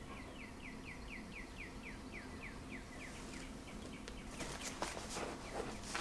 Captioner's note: birdsong coming through a cracked open window